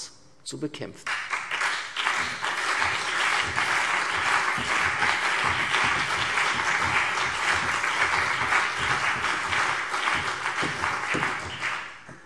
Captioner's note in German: Beifall CDU, BÜNDNIS 90/DIE GRÜNEN und vereinzelt SPD